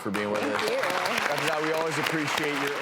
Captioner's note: crowd applauding